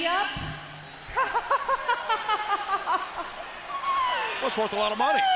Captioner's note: Kimberly laughs